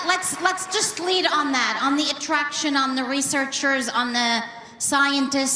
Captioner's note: applause